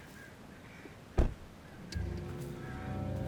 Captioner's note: door thuds; sinister music